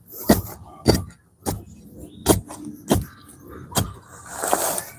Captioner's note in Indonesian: Suara burung